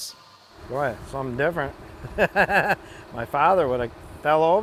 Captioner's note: laughing